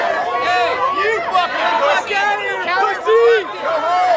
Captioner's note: crowd shouting